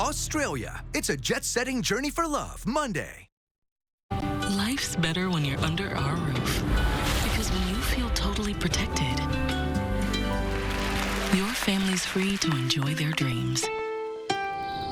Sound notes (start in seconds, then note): 6.6 thunder strikes roofline; 10.4 applause